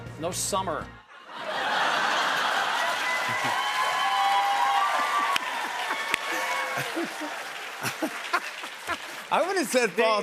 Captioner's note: laughter, cheers, applause